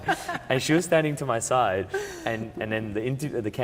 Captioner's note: laughs